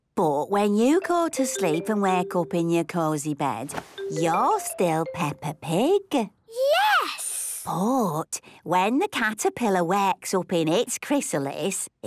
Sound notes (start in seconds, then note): none